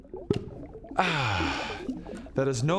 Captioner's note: emasculated sigh